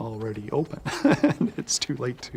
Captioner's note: laughs